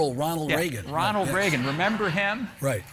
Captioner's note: audience laughing